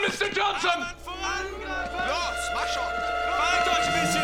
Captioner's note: speaking german